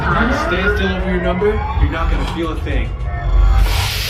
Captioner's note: electronic noises